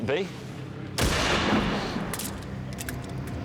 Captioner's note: shotgun blast